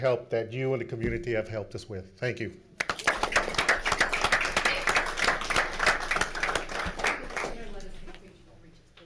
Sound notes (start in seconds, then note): 2.8 applauding